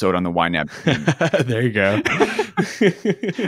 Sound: chuckles

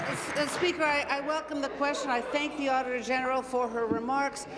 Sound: applause

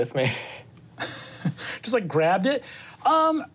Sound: chuckles

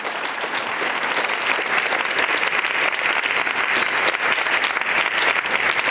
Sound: applause

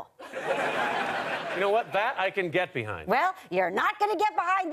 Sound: audience laughter

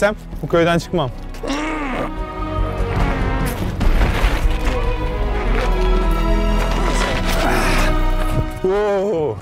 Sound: grunting

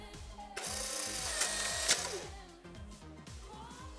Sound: camera clicking

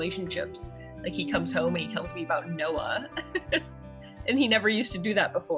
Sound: laughs

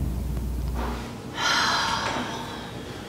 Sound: exhales

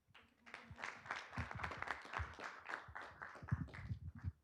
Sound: group clapping

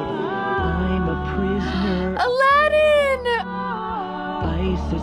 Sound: gasps

